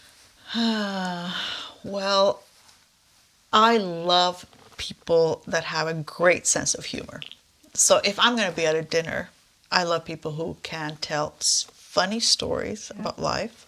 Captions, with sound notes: (sighs) Well, I love people that have a great sense of humor. So if I'm gonna be at a dinner, I love people who can tell funny stories about life,